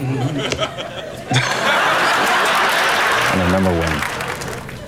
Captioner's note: audience laughs